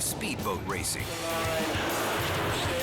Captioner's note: engines buzzing